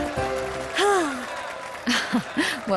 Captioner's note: sigh